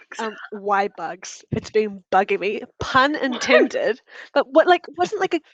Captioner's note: laughter